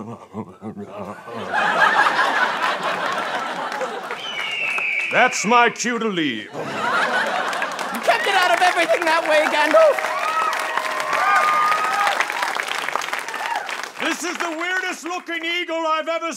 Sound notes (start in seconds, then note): 0.0 mumbling; 4.5 eagle call